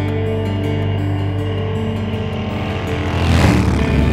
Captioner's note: engine rumbling